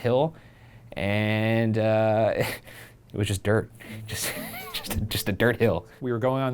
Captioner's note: laughs